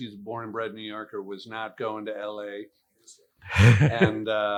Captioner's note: laughs